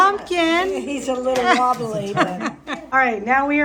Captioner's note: laughs